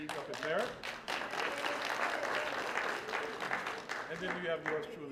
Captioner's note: applause